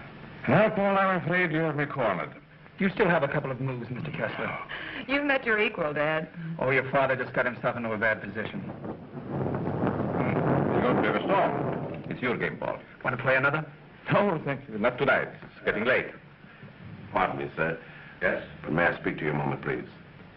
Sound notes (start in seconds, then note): 9.4 thunder